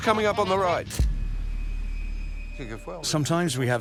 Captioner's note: camera snapping